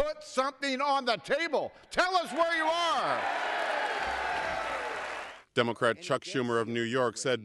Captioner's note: cheering and applause